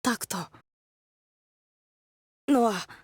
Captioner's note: silence